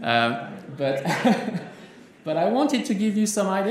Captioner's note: laughs